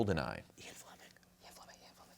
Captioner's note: whispering